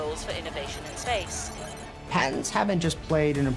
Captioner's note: computer calculating sound effect